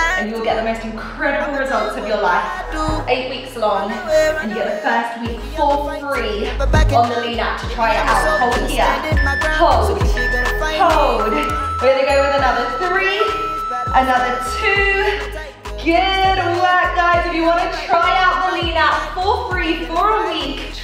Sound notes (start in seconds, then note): 10.5 timer beeping